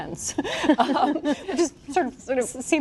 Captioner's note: laughter